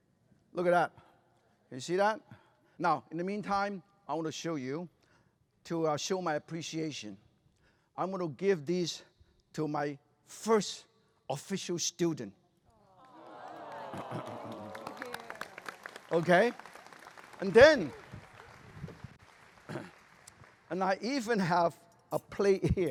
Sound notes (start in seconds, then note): 13.0 crowd awws; 14.1 applause